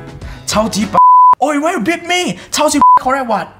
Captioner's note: beep